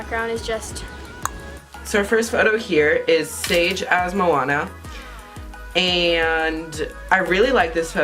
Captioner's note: clicking noise